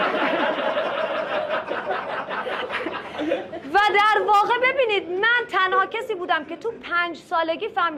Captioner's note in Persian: خنده